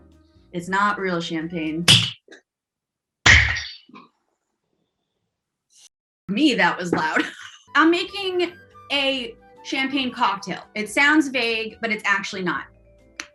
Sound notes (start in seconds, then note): 1.9 bottle top pops; 3.4 bottle top pops